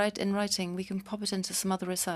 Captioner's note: speaking French